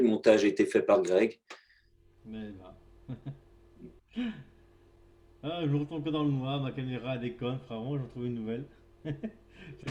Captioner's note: laughter